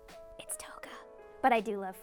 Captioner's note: whipsers